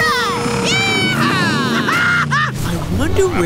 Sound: laughing

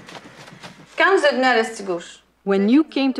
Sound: speaking in foreign language

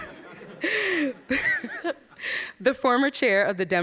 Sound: audience laughs

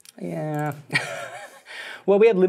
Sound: laughs

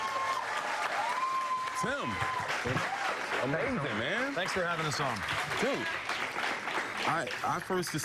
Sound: applause

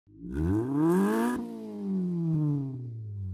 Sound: engine revs

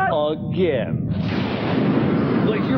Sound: explosion

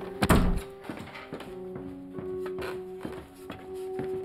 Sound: window slamming

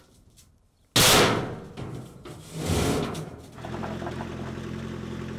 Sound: slams loudly; gravel crunching

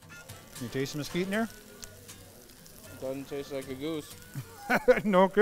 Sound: laughing

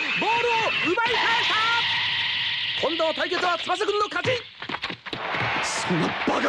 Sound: applause

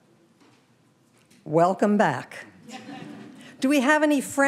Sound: audience laughing

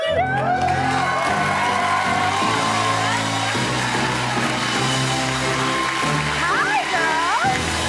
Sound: cheers and applause

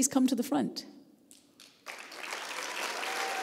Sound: applause

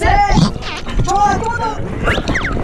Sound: groaning away

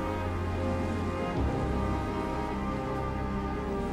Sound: water gushing

